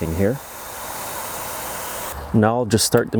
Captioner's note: pressure washer hissing